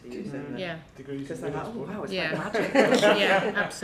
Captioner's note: practitioners laugh